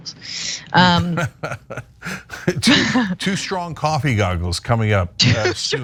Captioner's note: laugh